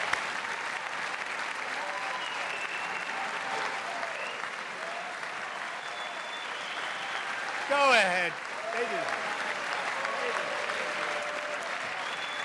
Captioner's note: applause; cheers